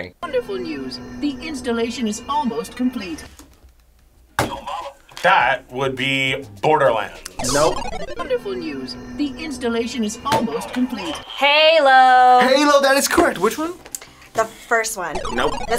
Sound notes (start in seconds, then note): 4.4 buzzer; 10.6 buzzer rings